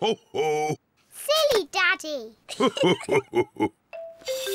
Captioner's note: both laugh